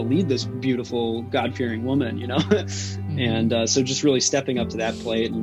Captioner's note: chuckles